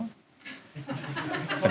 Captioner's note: laughter